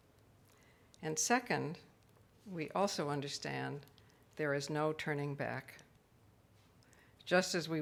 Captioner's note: none